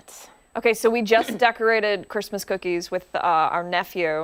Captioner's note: laughter